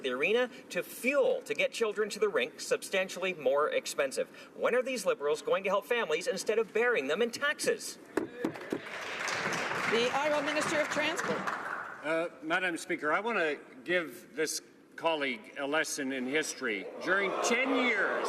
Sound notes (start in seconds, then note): 12.0 some Applause